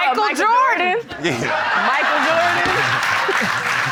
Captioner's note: laughter